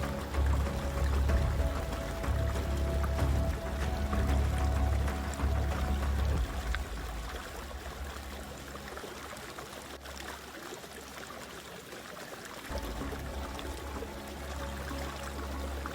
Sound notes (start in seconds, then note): 0.7 suspenseful music continues; 9.3 water gushing continues; 12.7 suspenseful music